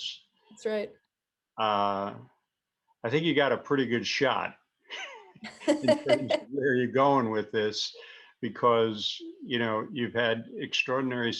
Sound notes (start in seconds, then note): 4.9 both: laughter